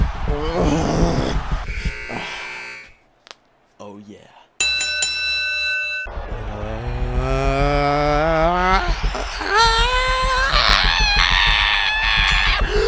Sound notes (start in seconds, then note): 1.6 end buzzer sounds; 3.2 knuckles crack; 4.6 bell dings 3 times; 6.1 yelling slowly rises in cadence